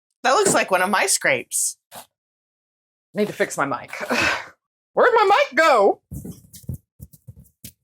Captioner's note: none